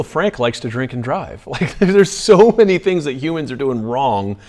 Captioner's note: laughs